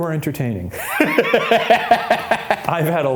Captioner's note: laughs